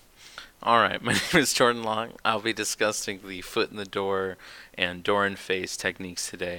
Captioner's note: laughs